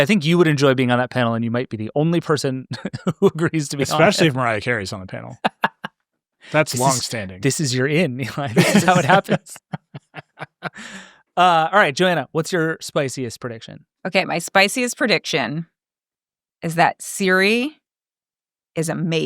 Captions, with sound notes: I think you would enjoy being on that panel, and you might be the only person who agrees to be on the panel. - Especially if Mariah Carey's on the panel. That's long standing. - This is your in, Nilay. That's how it happens. (laughs) All right, Joanna, what's your spiciest prediction? - Okay, my spiciest prediction is that Siri is amazing.